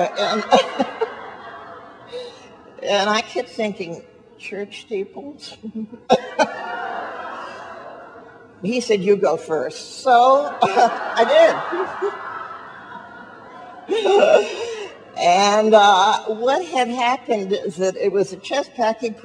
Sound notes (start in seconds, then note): 0.0 audience laughs; 5.5 laughs; 12.3 audience laughs